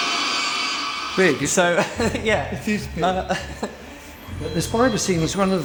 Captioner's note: laughs